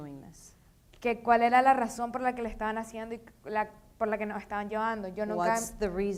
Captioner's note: speaking in foreign language